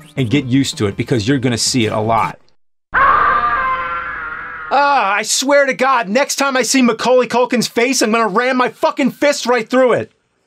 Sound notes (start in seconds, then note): 2.9 screams